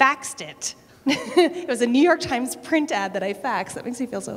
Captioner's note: laughter